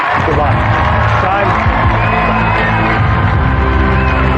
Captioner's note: cheering and applause